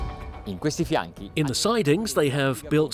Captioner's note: speaking in foreign language